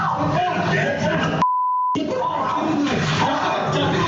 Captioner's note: screaming and shouting